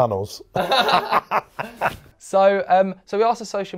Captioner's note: both laugh